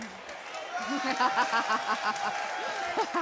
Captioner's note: laughs; crowd claps